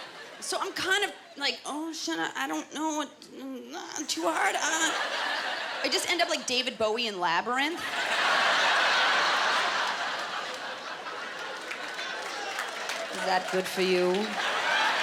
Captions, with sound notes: So I’m kind of, like, "Oh, should I, I don’t know what, too hard," I just end up like David Bowie in Labyrinth. (Laughter) (Applause) "Was that good for you?"